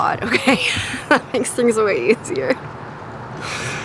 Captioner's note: laughs